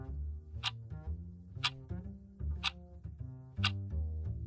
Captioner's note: clock ticking